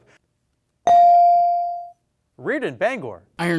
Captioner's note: bell dings